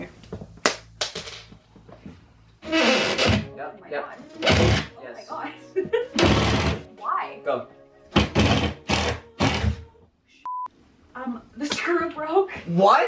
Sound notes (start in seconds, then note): 0.7 screw clangs; 2.7 drill whirs; 10.4 beep